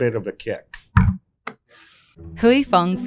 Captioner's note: bottle thuds and scrapes